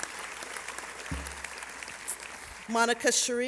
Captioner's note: applause